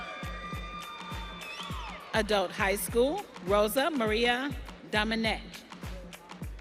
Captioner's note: audience cheering